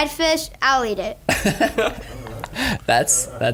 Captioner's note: laughing